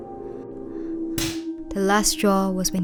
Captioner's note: slap